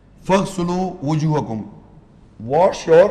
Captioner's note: Arabic